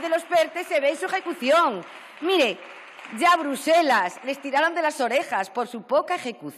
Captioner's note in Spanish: Aplausos